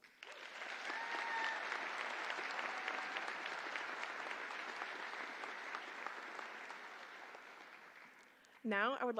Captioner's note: applause